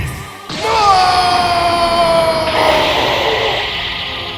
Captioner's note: shoutings